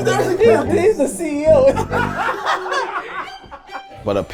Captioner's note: all laughing